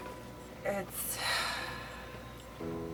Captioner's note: deep sigh